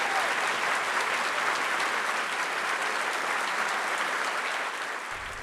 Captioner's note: applause & cheers